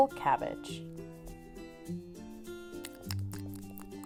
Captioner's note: nibbles